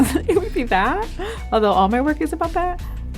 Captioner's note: Jillian laughing